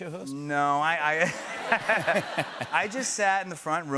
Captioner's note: laughter